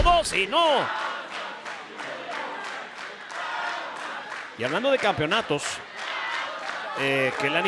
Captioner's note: applause